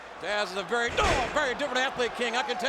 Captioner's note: body thudding